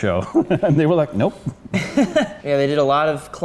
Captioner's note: laughter